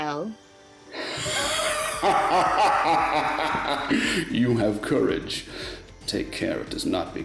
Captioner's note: laughing darkly